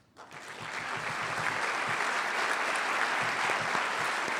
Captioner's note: applause